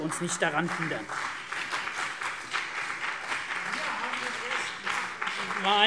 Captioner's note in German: Beifall CDU und BÜNDNIS 90/DIE GRÜNEN